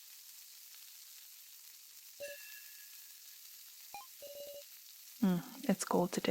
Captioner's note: rain sounds that sound kinda like a frying pan sizzling